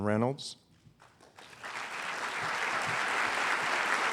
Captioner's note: applause